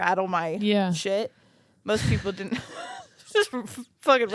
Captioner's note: chuckles